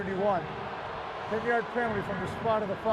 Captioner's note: booing